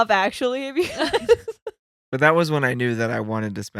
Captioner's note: laughing